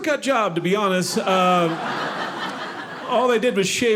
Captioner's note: audience laughing